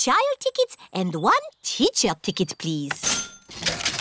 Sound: cash register dings

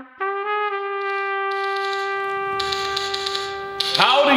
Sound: typewriter keys clacking

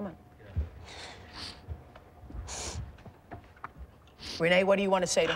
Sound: sniffles

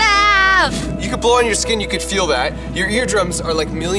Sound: blows

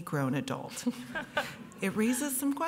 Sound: chuckles

